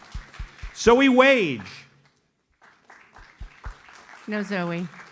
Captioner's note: audience applauds; audience applauds